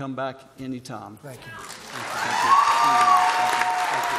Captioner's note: applause